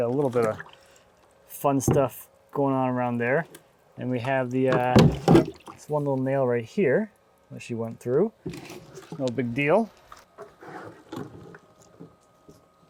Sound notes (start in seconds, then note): 0.0 water splashing; 4.6 bucket banging; 10.7 water splashing